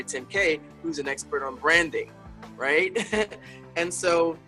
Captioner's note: laughs